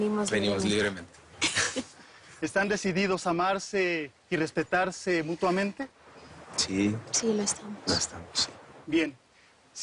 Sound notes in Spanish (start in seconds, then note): 1.4 Risas